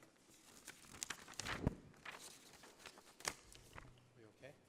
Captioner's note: papers rustling